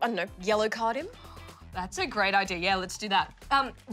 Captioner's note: gasps